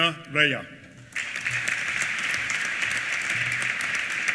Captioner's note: applause